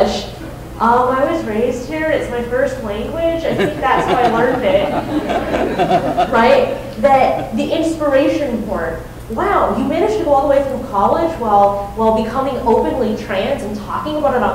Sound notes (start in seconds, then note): 3.4 laughing